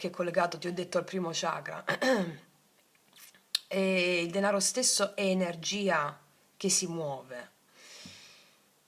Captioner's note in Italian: schiarire la voce